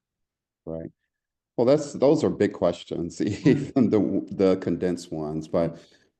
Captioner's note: laugh